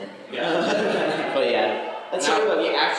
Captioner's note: laughter